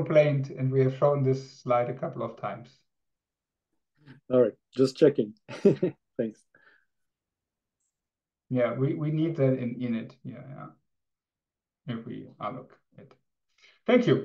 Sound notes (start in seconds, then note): 5.5 laughs